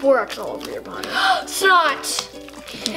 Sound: gasp

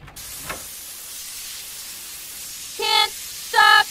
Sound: sound of beer fountain

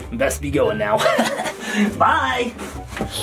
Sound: chuckles

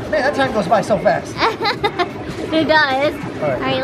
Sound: laughing

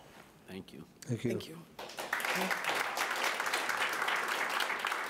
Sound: audience applauding

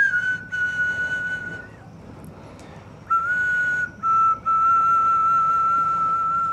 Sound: last bit of whistling

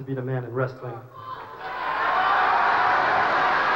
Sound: boos and cheers

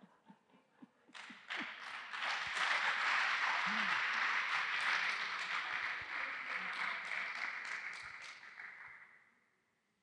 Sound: applause

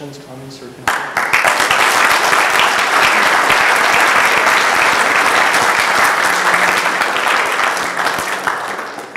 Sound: applause

